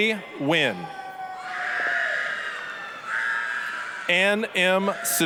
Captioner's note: applause, cheering